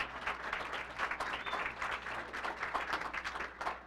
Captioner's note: applause